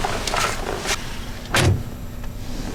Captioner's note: door closes